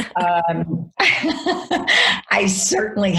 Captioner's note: laughs